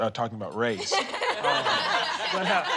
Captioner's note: all laughing